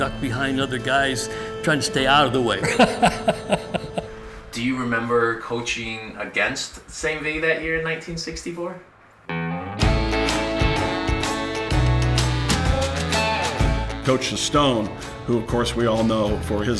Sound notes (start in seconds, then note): 2.6 laughing; 9.4 oldies music